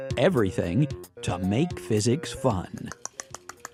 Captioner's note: tongue clicking